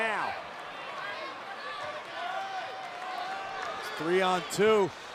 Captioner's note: applause